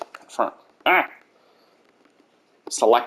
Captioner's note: noise of frustration